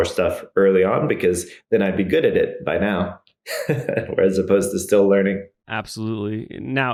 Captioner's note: laughs